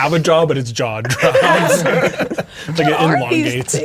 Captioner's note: players laughing